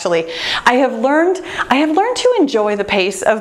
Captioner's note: none